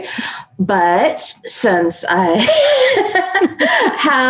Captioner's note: laughing